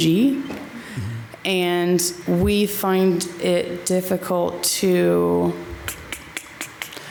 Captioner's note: clicks tongue